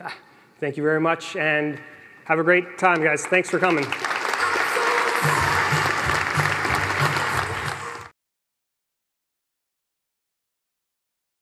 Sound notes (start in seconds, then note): 4.5 applause